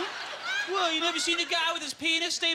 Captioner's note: audience laughter